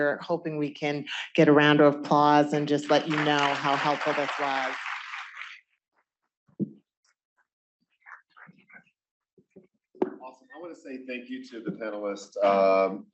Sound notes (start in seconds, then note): 4.8 applause